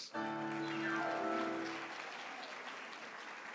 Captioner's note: applause